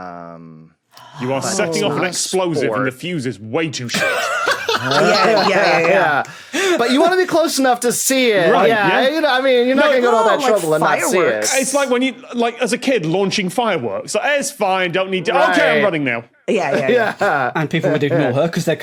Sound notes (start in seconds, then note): 4.0 cackles dourly